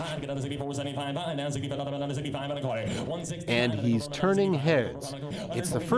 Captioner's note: rapid Auctioneer chant